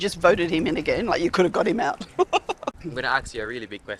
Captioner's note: laughs